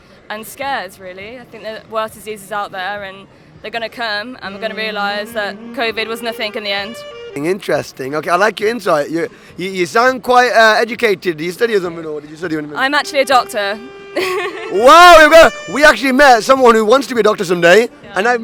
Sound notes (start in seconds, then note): 14.0 laughs